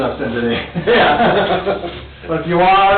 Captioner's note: laughs